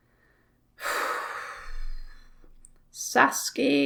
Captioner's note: meaningful sigh